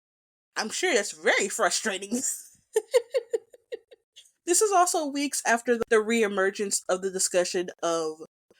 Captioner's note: laughs